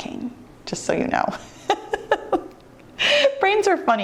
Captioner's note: laughs